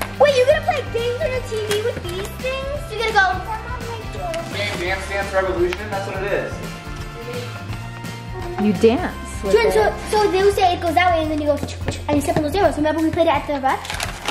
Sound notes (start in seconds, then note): 4.0 mumbling